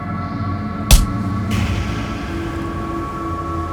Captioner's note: smacking